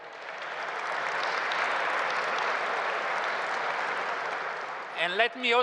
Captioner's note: applause